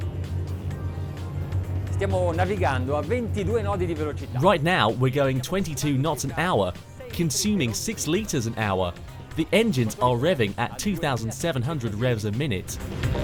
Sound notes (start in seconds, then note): 0.1 funky music; 2.1 man speaks in foreign language; 13.0 funky music